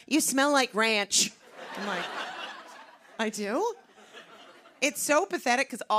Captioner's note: laughter